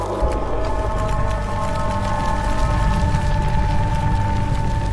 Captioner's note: volcano rumbling